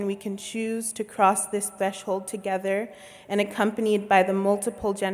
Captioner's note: none